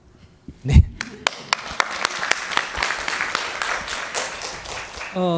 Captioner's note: audience applause